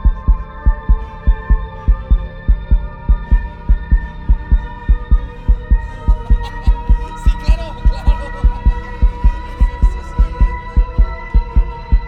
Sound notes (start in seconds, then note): 4.4 faster heartbeat; 10.0 hysterical laughs returns